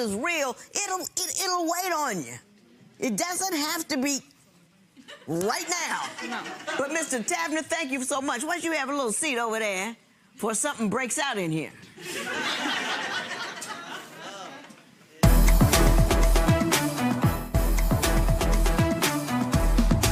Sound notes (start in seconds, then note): 5.0 audience laughing; 12.0 audience laughing; 15.2 serious music